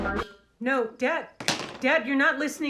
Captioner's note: rock music; TV cuts out